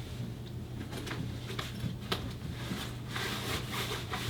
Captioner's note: rustling